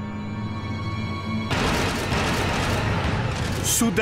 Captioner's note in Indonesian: suara seismograf